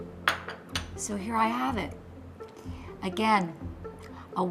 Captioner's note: glass gently clatters